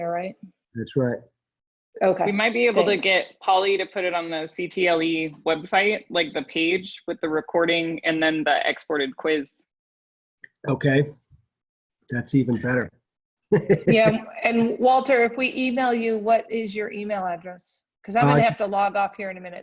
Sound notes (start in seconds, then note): 13.5 laughter